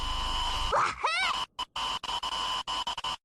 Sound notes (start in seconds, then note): 0.0 slender static sound; 0.7 klonoa wahoo voice clip